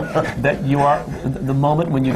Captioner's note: laughter